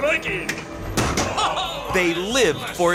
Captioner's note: metal thuds